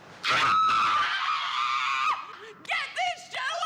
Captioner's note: screams